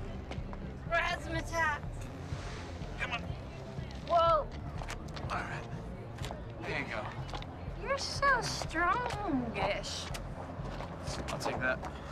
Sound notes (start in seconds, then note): none